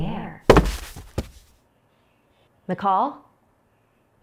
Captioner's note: thud